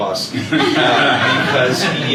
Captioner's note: laughter